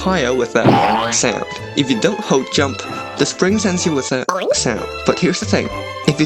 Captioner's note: boing